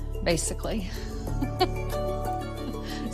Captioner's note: laughs